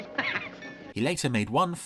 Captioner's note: laughing